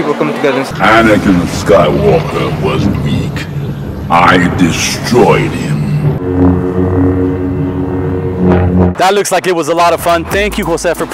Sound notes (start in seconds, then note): 6.2 swords buzzing